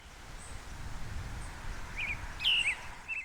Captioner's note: birds singing